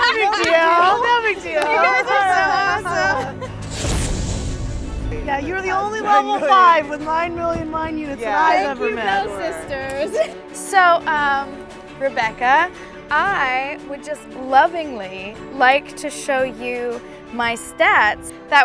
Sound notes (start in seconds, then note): 3.0 laughter; 8.1 laughs